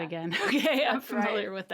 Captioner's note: laughing